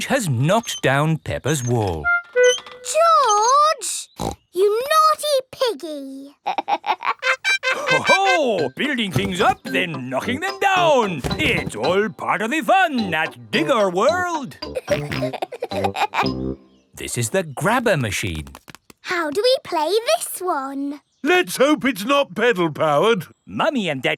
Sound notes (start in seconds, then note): 4.2 snorts; 6.4 laughs; 14.7 peppa and george laughing